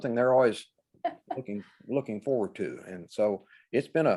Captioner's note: laughs